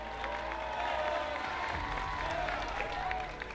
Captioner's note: cheering